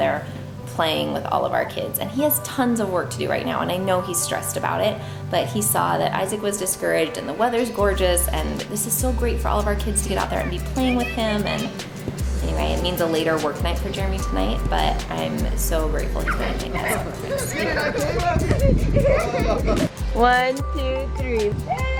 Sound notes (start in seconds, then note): 18.8 kids laughing